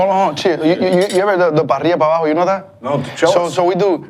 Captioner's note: speaks Spanish